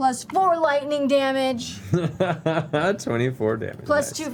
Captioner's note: laughs